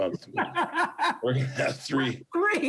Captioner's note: laughs